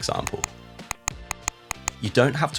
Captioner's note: mouse clicking